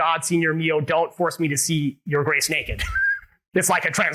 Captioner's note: laughs